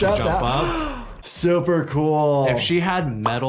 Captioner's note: gasps